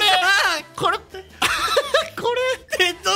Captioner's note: laugh